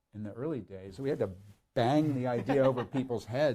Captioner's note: laughs